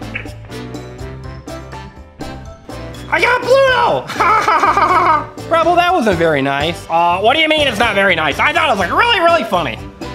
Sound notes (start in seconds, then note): 4.0 chuckles